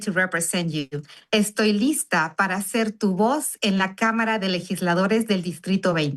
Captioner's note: speaking Spanish